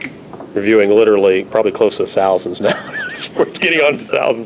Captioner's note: laughs